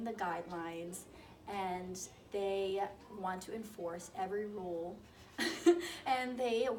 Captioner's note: laughs